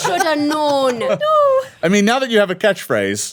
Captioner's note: everyone laughing